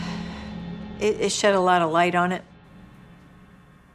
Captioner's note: sighs